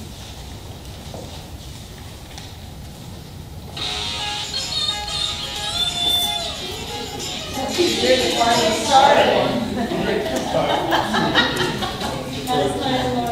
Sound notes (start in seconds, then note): 3.5 laughter; 3.8 audience member cell phone plays music